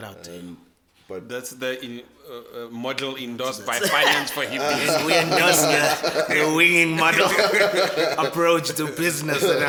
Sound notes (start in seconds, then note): 3.7 everybody laughs; 6.7 laughs